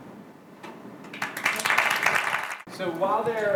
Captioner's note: clapping